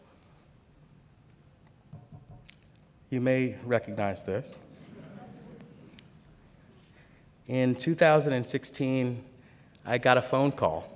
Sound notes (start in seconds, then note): 4.7 laughter